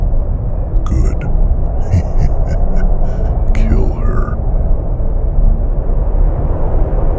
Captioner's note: soft laugh